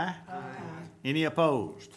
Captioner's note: group chanting